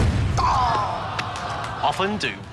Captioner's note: sighs